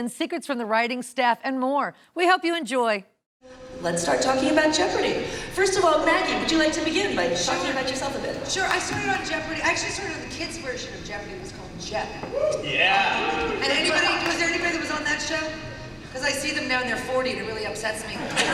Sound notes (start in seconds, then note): 12.4 audience members cheer